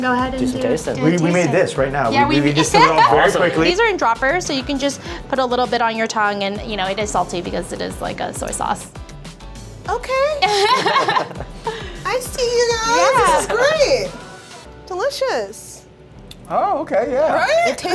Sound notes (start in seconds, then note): 2.6 laughs; 10.3 makers laugh